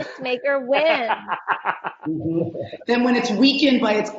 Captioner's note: laughing